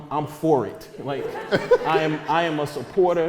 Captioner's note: audience laughter